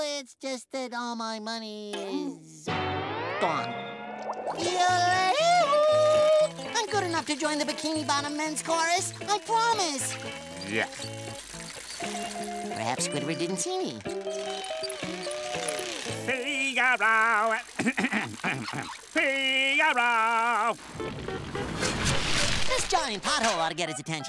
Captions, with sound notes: that all my money is... gone. Yodel-Ay-Hee-Hoo. I'm good enough to join the Bikini Bottom Men's chorus. I promise. Yuck. Perhaps Squidward didn't see me. Figaro! [coughing] Figaro! This giant pothole ought to get his attention.